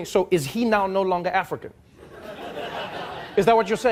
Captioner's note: audience laughing